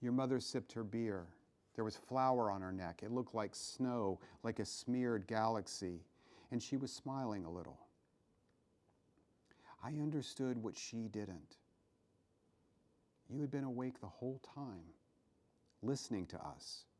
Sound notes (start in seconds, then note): none